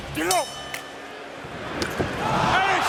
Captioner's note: bell rings